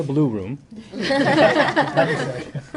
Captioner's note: laughter